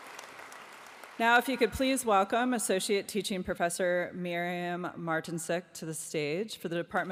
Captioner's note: applause